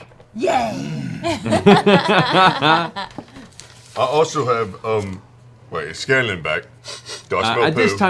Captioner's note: sniffs